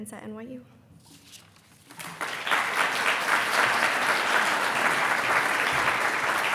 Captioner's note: pages rustling; attendees applauding